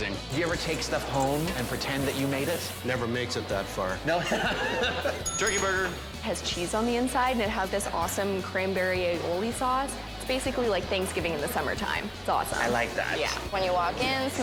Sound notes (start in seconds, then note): 4.1 laughs; 5.2 bell dings